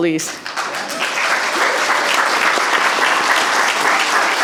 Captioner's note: audience applauding